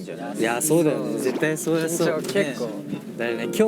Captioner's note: pat